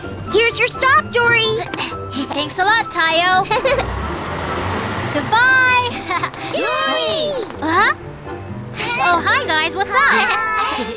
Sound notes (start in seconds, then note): 3.4 Tayo giggles